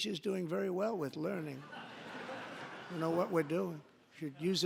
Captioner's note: laughter